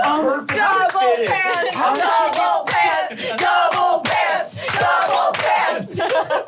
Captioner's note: all chanting